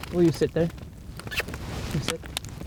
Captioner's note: zipper zipping